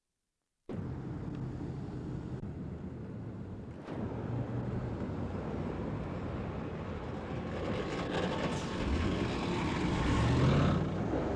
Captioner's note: silence; street noise